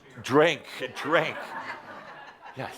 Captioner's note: laughter as others say “Drink” as well